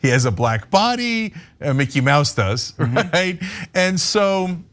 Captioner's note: laugh